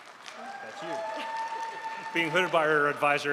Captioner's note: crowd applauds